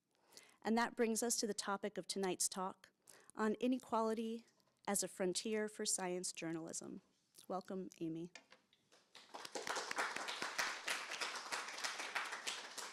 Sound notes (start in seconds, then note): 9.0 applause